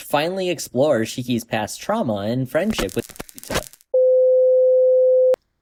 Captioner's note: static